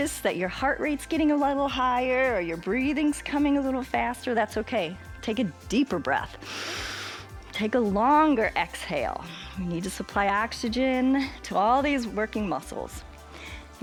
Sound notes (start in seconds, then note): 6.4 inhales